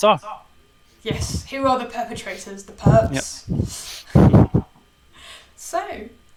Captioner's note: chuckles